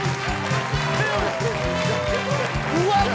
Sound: cheers and applause; laughter

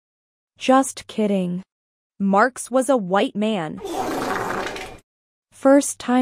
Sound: farts

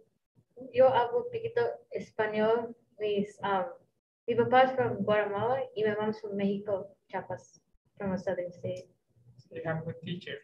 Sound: speaking Spanish

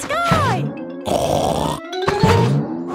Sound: snorts

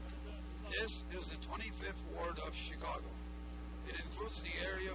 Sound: voice-over

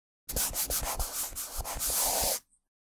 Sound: brushing sounds

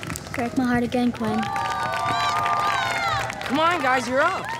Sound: cheers and applause

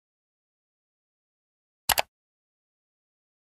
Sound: mouse click sound effect

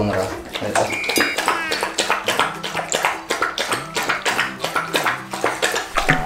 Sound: laugh

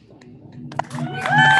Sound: cheering and applause

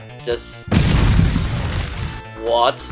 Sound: explosive sound effect

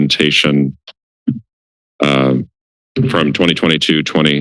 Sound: silence

